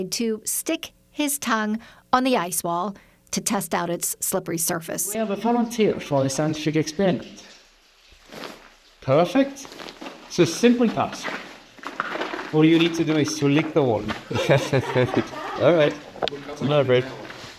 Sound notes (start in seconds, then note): 14.3 laughs